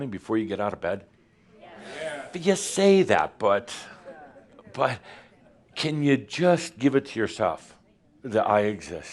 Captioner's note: audience says “Yes”